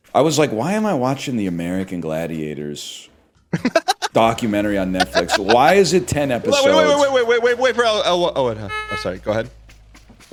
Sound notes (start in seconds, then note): 3.5 bursts out laughing